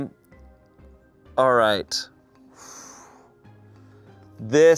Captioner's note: exhales sharply